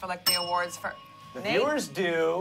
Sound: bell dings

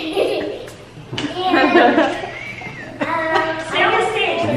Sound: laughing; giggles

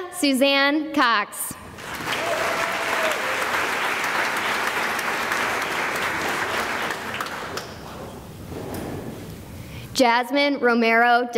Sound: cheering and applause

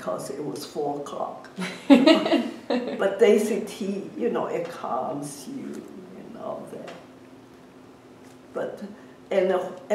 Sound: laughs

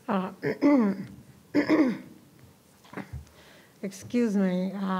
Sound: clears throat

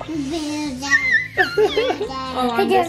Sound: squealing

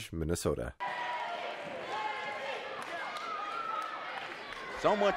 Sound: crowd cheering

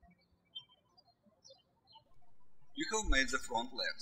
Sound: birds chirping

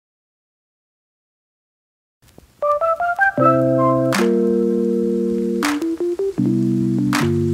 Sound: static crackles; bright upbeat music

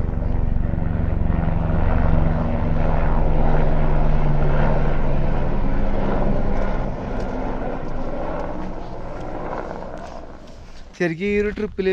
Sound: helicopter hovering

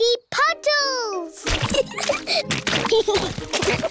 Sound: oinks; both giggling

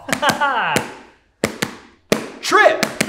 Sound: Tripp slaps a beat

